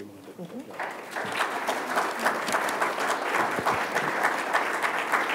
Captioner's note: applause